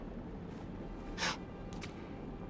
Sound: exhale

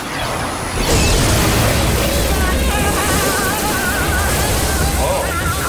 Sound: screaming

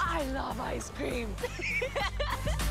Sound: laughs

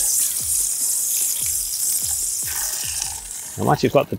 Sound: water spraying

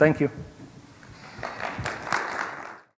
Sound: applause

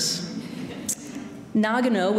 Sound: audience laughing

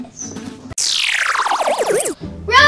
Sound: space noises

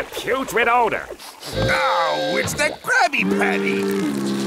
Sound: sniffing

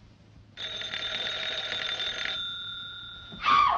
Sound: phone rings

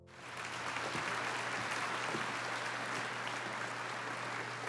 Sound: audience applauding

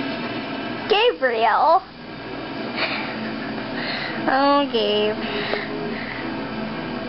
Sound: snicker

